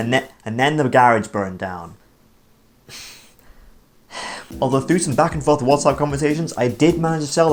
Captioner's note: sigh